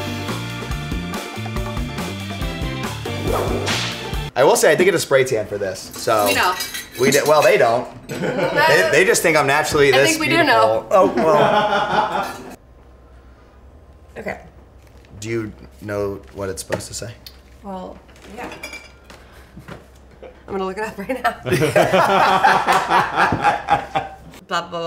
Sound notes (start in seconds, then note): 0.0 upbeat music; 3.2 whooshing; 3.2 hand slap; 8.1 all laugh; 10.9 laughs; 21.4 all laugh